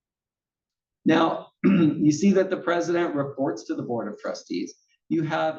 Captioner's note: cough